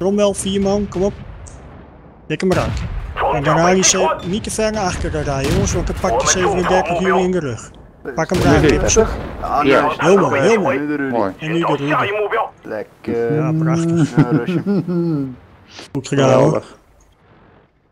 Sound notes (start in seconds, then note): 13.4 laughing